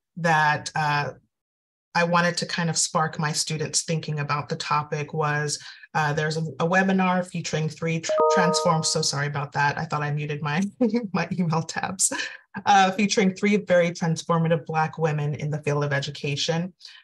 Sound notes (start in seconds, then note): 8.1 video chimes